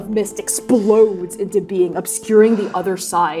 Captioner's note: inhaling sharply; exhaling; inhaling sharply